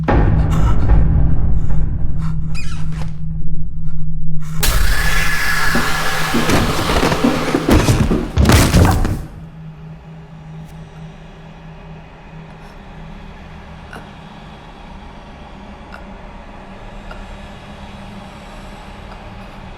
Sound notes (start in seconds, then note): 0.3 dramatic music; 8.3 bone cracking